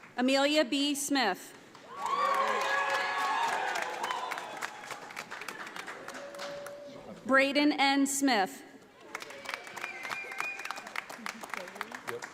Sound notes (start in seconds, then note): 1.8 audience applauding; 9.0 audience applauding